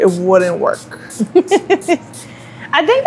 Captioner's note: laughs